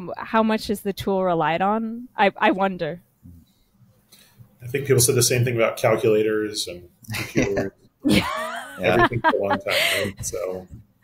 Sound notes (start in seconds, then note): 8.0 both laughing